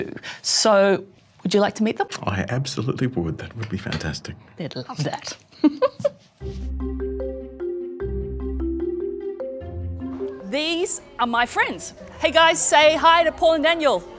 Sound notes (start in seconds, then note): 5.0 giggles; 7.9 marimba music playing